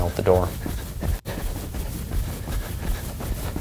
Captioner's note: sound of runner’s footsteps